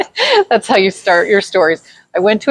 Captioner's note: laughs